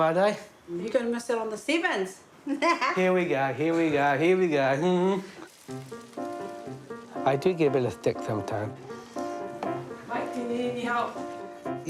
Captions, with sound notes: You're gonna miss out on the Sevens. (LAUGHS) Mike, do you need any help?